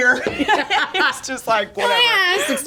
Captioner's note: everyone laughing